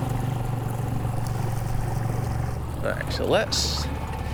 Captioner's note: water sloshing; engine chugging